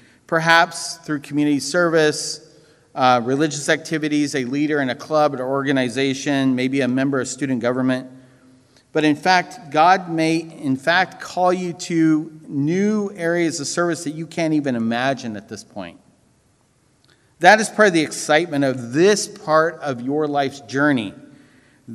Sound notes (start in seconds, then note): none